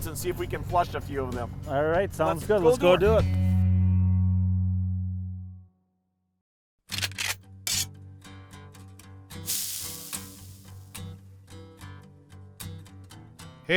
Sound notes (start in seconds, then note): 6.9 gun cocking; 9.4 sizzle